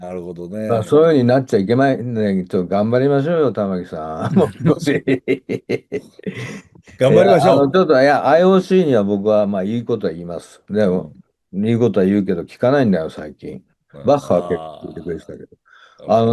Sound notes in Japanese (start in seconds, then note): 4.2 笑い; 7.7 咳払い